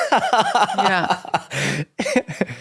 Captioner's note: both laughing